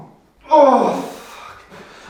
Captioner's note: shouts of pain